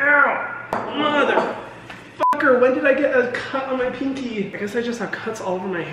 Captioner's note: beep